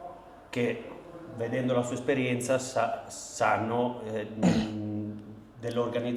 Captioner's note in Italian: schiarire la voce